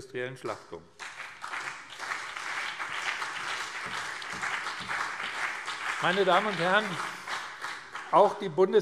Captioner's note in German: Beifall BÜNDNIS 90/DIE GRÜNEN und CDU